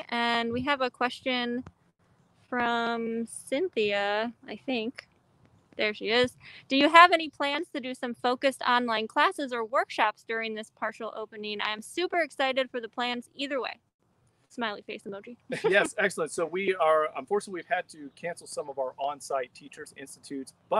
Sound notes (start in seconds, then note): 15.4 laughs